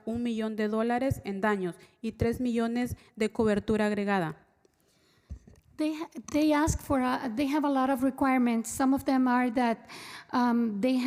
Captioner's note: spanish